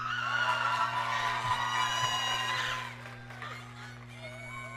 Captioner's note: audience cheering